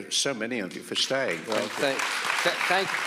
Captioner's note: audience applauds